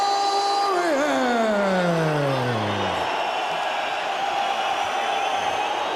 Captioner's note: cheering